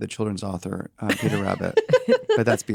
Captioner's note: laugh